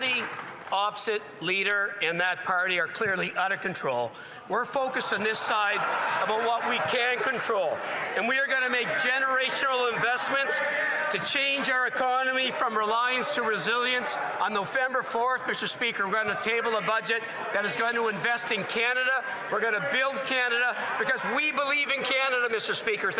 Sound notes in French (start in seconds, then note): 2.7 voix de l'interprète